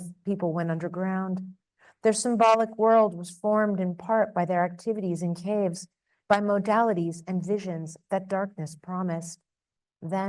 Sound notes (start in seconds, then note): none